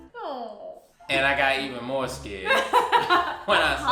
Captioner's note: laughs